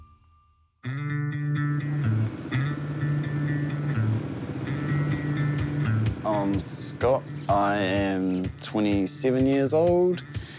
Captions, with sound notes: (LIVELY MUSIC) (ENGINE PURRS) I'm Scott. I am 27 years old.